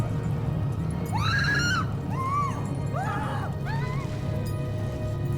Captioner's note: Heather screaming